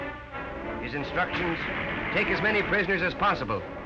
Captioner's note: voiceover